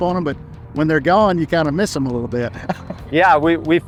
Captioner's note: chuckles